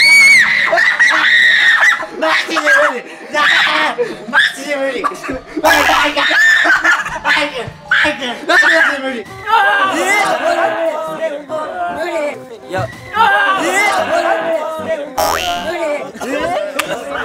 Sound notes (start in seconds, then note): 5.8 screaming over a sound